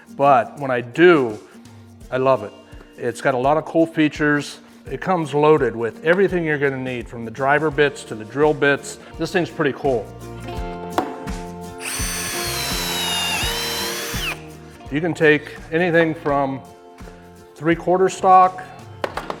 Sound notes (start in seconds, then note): 11.8 drill whirling; 11.8 clamp clicking